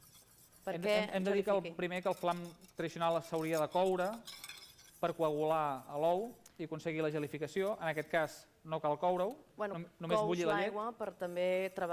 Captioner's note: non-english speech